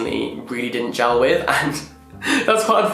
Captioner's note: laughing